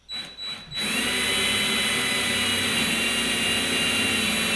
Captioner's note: drill whirring